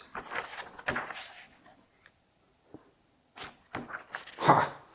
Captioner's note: turns pages